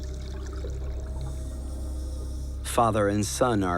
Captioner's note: hissing of breathing apparatus